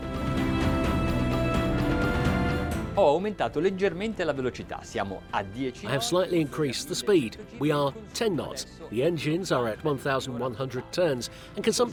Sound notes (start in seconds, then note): 0.0 dramatic orchestral music; 2.8 speaking foreign language